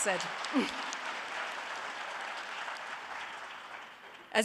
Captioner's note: cheering and applause